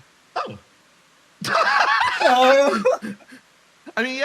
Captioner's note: laugh